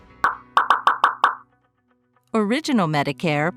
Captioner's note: popping noise